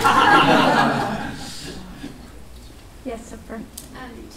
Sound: laughing

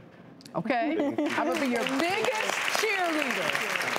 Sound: audience applauds

